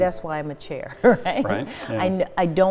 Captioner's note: laughs